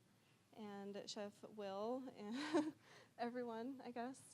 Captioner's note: chuckling